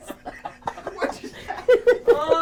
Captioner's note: people laughing